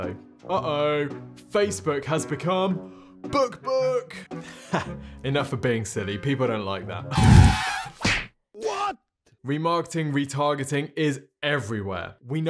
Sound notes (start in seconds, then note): 7.3 tyres squealing; 7.3 whipping